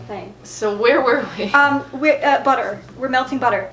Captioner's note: laughs